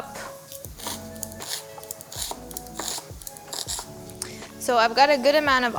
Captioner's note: onion crunching